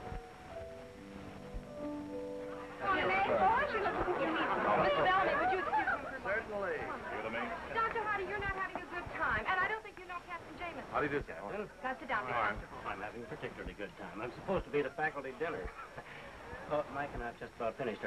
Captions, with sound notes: [indistinct chatter] Mr. Bellemy, would you excuse him for a minute? Dr. Hardy, you're not having a good time and I don't think you know Captain Jamison. - How do you do, captain? - Alright. I'm having a particularly good time. I'm supposed to be at a faculty dinner. But Mike and I just about finished our